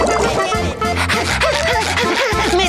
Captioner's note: panting